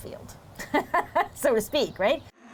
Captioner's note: laughter